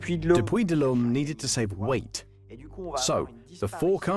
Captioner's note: voiceover